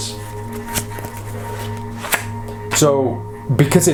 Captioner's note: shuffling